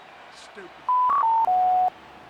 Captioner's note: beep